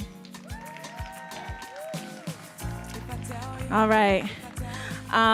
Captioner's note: audience cheering and applauding